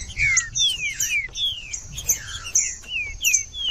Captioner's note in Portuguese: trinca ferro cantando